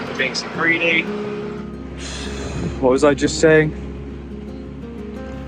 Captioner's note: blows